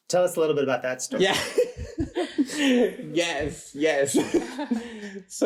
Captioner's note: laughs